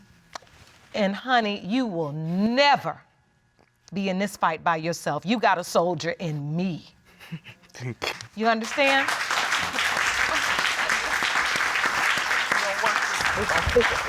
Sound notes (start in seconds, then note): 6.3 tearfully; 8.6 audience applauding